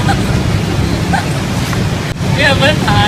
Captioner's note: laughs